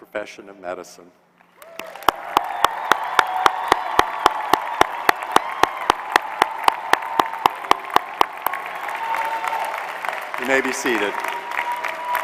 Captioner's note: applause